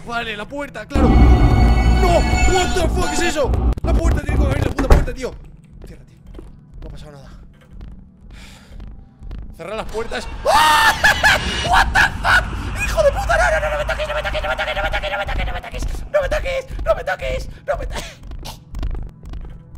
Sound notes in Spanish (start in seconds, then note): 10.6 risa de susto